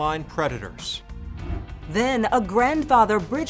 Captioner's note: transition whooshes